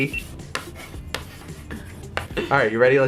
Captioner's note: writing on chalk board